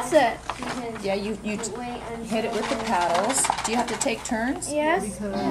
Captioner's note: someone shaking box of pencils